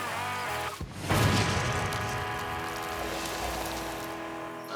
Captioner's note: gunshot